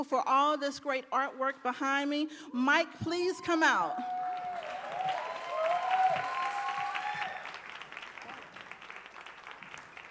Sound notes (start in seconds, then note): 3.9 audience applauding and cheering